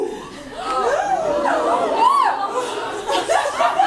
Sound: audience gasps

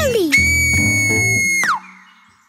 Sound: whistles loudly

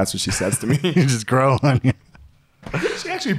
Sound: laughing

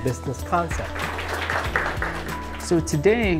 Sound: students applauding

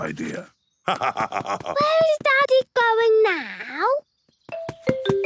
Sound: laugh

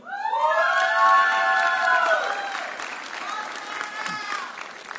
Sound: audience cheering

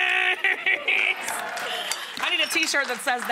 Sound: audience clapping

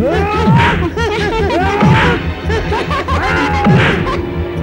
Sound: laughs

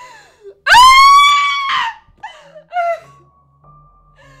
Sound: Leslie Screams; soft piano music

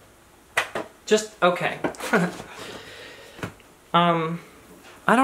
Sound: chuckles

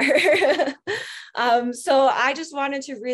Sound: laughs

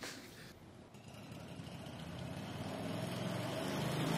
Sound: plane engine starts

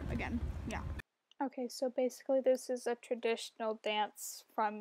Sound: voice-over

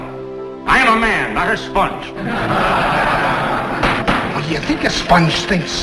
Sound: laughter

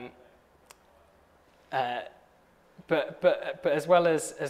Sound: none

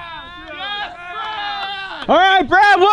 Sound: yelling

